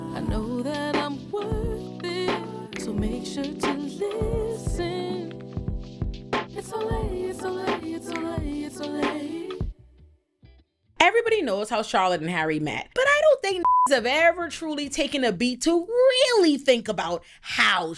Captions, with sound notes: I know that I'm worthy To make sure to listen It's all A it's all A it's all A it's all A Everybody knows how Charlotte and Harry met, but I don't think (beep)s have ever truly taken a beat to really think about how